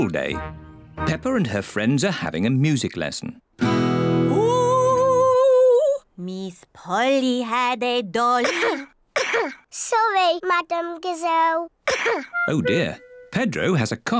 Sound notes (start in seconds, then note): 3.6 strums guitar; 8.4 coughs; 11.8 coughs